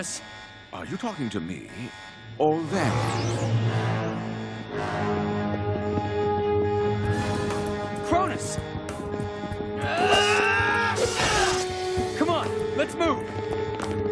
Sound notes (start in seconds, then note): 9.8 both yelling